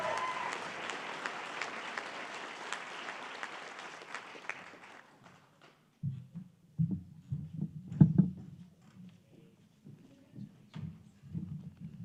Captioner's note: applause